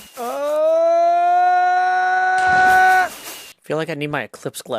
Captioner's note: rising shouting